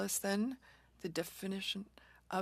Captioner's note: speaking French